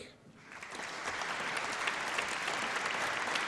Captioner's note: applause